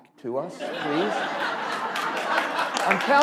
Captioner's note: laughter; applause